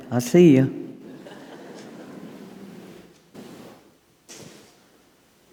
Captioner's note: audience chuckling